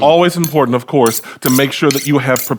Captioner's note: knives scraping